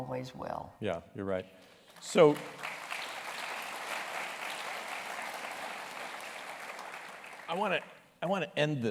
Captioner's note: applause